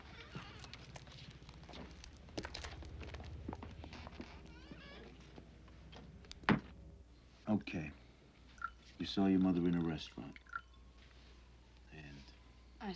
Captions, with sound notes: (door creaking) (door thuds) - Okay. You saw your mother in a restaurant and...